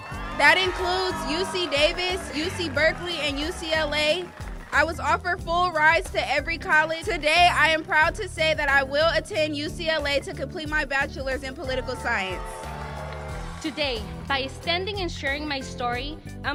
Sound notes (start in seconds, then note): 0.0 crowd cheering; 3.8 applause; 11.4 crowd cheering